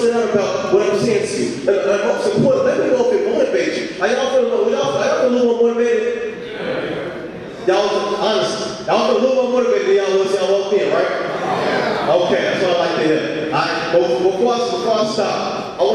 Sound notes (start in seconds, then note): 5.7 audience speaking